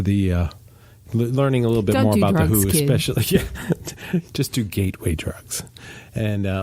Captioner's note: laughs